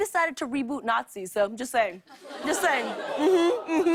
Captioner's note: audience groans